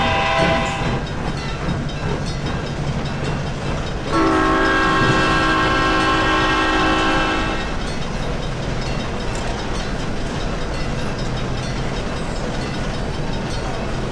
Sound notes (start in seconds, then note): 2.3 steam engine chuffing, SP Cab Car Horn